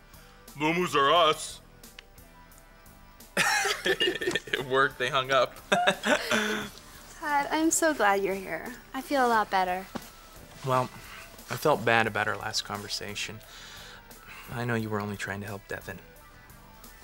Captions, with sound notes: Moo-moos "R" us. [both laugh] It worked. They hung up. [laughs] Todd, I'm so glad you're here. I feel a lot better. Well, I felt bad about our last conversation. I know you were only trying to help Devon.